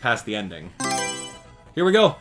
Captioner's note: Mario Selection Sound